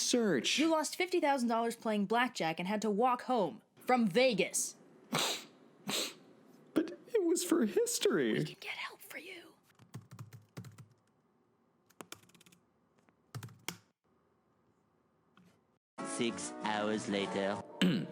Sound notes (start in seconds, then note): 8.5 whispering